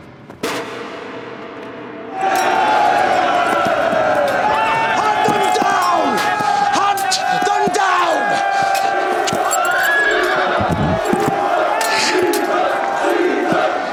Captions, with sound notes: (MEN CHEER) Hunt them down! Hunt them down! (MEN CHANT "CAESAR!")